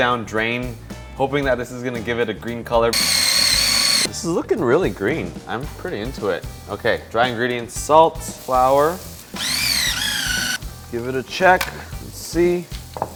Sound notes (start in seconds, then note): 2.9 buzzing; 9.3 buzzing